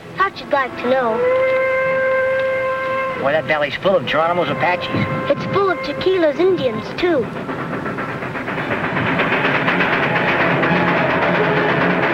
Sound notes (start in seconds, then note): 1.9 train whistle blowing; 8.2 train engine rattling